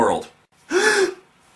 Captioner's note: le gasp!